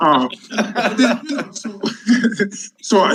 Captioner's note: panelists laughing